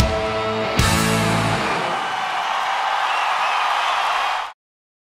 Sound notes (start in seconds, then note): 0.6 audience cheering and clapping